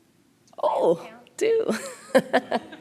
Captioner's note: laughs